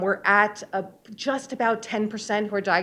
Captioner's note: none